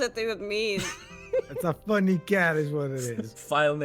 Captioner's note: laughs